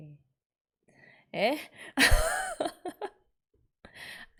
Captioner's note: laughs